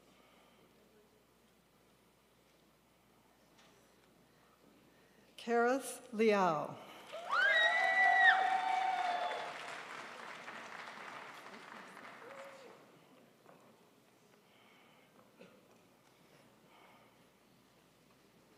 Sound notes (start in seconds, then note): 6.9 crowd applauds